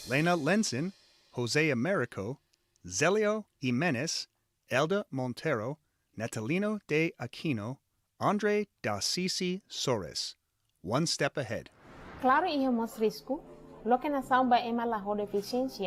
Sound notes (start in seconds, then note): 12.3 non-english speech